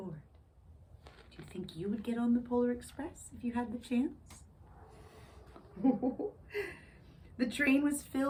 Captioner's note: ho-ho-ho giggles